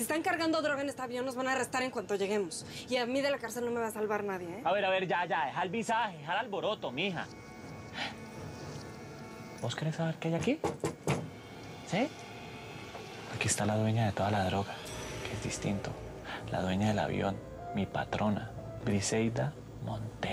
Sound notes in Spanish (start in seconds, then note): 10.4 golpecitos sobre el ataúd